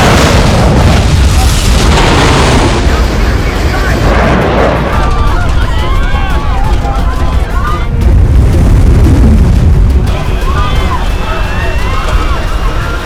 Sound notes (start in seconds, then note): 0.2 explosions; 5.0 screaming; 7.8 beeping radar; 10.2 screaming